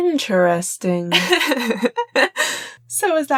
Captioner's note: laughs